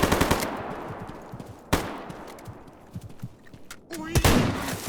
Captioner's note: gunshots